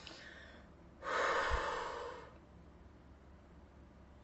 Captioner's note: exhales